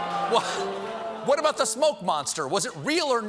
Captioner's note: audience reacts; piano riff